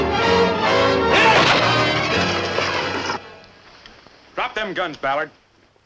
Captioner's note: men grunting